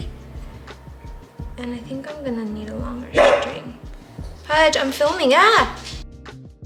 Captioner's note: Pudge barks